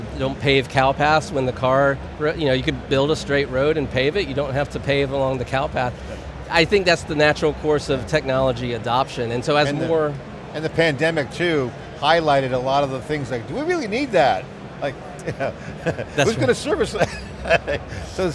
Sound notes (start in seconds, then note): 15.2 chuckles